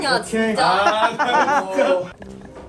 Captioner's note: blood boiling